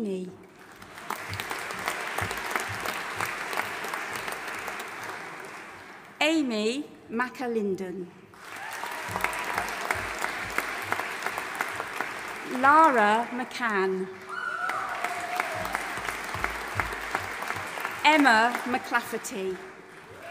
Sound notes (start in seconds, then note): 0.5 audience applauding; 8.3 audience applauding and cheering